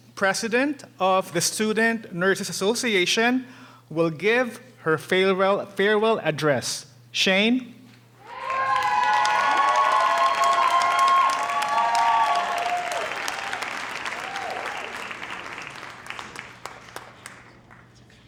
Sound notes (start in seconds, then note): 8.2 audience cheering; 9.4 audience applauding